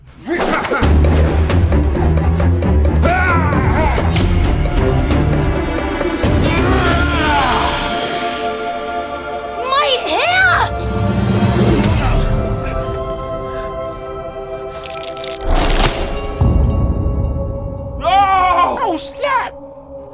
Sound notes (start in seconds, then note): 0.3 tense music; 6.4 yells; 12.2 wondrous music